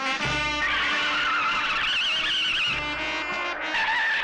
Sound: tires Screeching

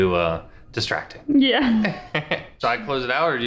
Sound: laughs

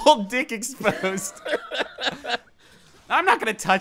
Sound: both laughing; chortling

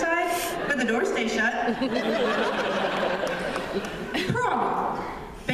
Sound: laughter

